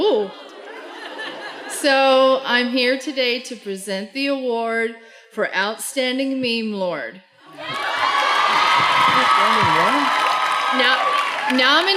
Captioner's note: cheering